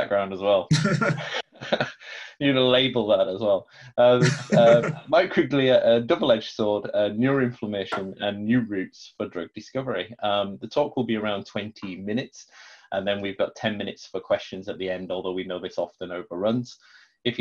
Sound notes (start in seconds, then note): 0.7 both laugh